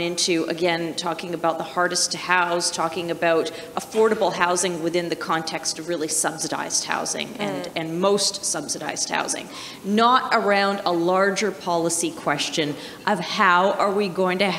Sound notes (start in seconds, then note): none